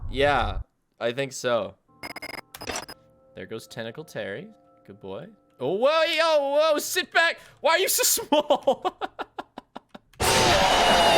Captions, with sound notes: Yeah, I think so. There goes tentacle Terry. Good boy. Oh, whoa. Whoa. Sit back. Why are you so small? (Laughs)